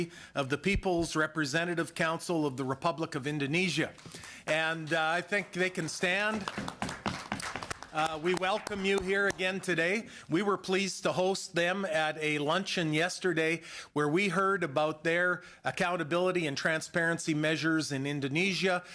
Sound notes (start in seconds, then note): 9.9 applause